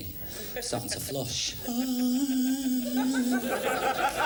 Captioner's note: whirring, spinning sounds